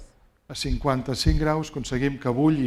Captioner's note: speaking spanish